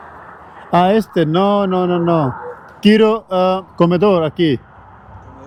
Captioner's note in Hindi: स्पेनिश में बोलना